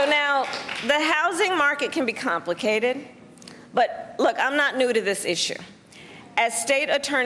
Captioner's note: cheers and applause